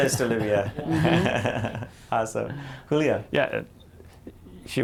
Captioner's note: laughter